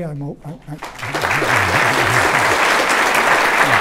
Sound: applause

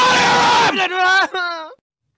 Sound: cries

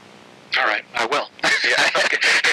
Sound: laughing

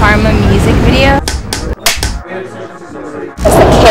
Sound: clapboards clapping

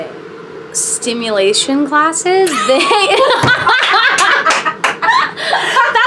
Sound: laughs

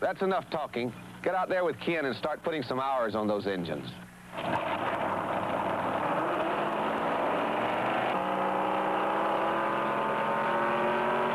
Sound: cars speed

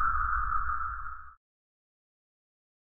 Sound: silence

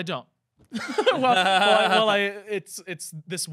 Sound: laughing

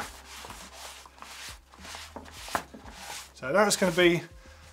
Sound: rubbing

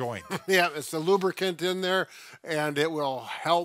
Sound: chuckles

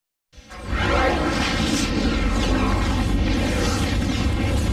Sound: dramatic twister and helicopter sounds

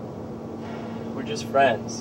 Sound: sigh

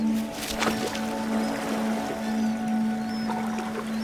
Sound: bird splashing

